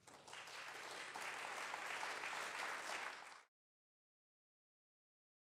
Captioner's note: applause